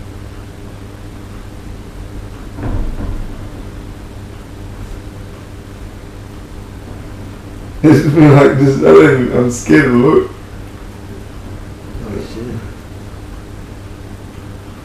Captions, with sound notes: (footsteps) - It's just me like, I'm scared to look. - Oh shit.